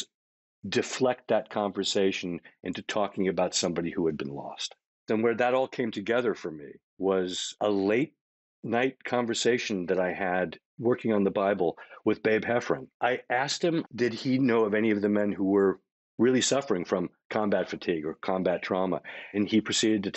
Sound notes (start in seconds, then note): none